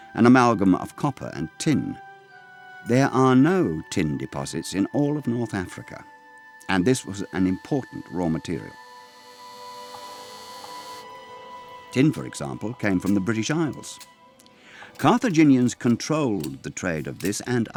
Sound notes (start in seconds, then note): 9.6 tool buzzing